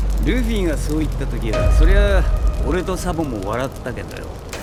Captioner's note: taps mic